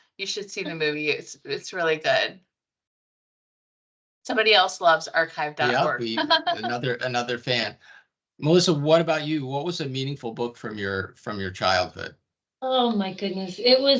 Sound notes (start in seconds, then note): 5.6 laughing